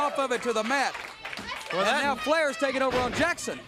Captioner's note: crowd chatter